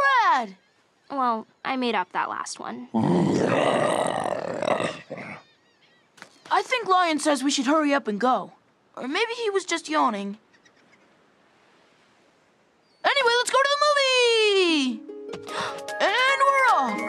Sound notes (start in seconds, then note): 4.6 growls